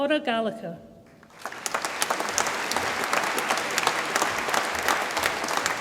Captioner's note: audience applauds